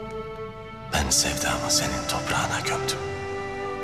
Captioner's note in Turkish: Ertuğrul iç ses